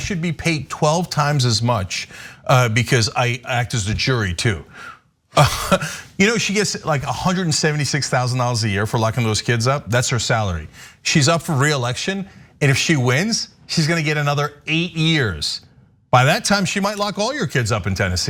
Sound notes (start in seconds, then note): 5.4 laugh